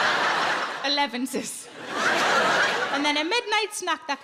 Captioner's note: audience laughs